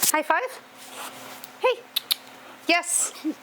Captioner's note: tongue click noises